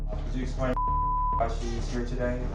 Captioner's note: beep